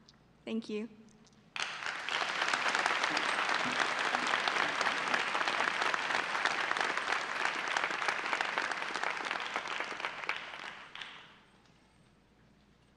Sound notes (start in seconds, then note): 1.5 audience applause